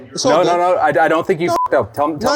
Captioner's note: beep